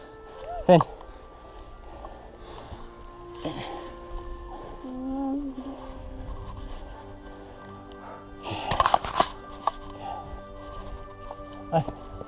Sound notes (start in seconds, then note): 2.9 inspirational music; 8.4 heavy breathing